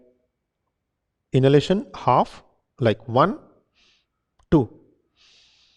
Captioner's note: inhale